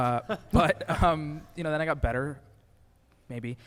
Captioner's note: laughs